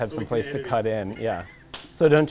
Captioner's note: man laughs